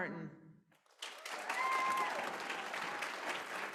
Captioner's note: applause